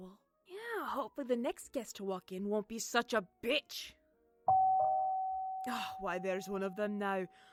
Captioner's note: the doorbell rings